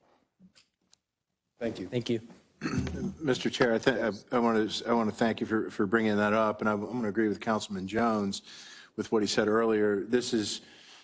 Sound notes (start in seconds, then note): 2.6 cough